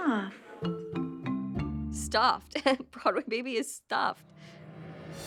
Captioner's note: giggles; somber music playing